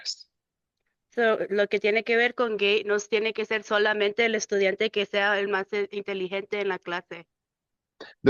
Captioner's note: speaking in Spanish